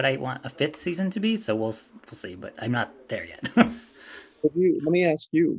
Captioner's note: chuckles